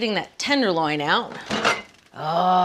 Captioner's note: doors banging